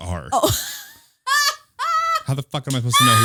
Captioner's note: laughing